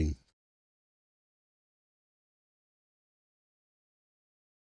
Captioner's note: silence